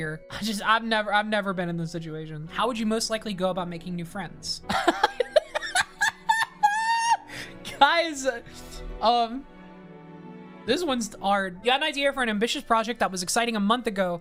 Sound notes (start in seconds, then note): 4.7 laughing